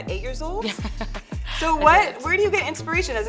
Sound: laughs

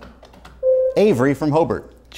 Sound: buzzer sounds

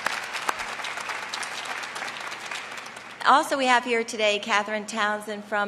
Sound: applause

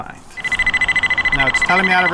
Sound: multiple beeping

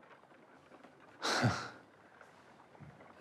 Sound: Willard laughs

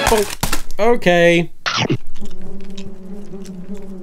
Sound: dramatic music playing; bee buzzing; chomping sound

